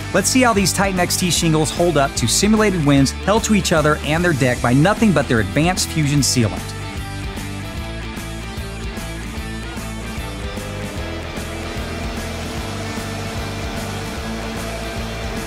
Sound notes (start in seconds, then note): 6.8 upbeat music continues; 10.1 blower humming